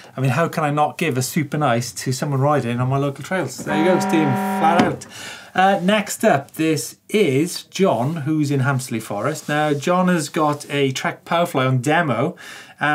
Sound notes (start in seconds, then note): 3.7 alarm sound